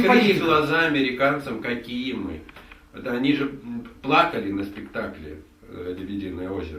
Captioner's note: speaking in the Russian language